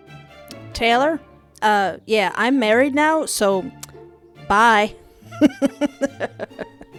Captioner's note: laughter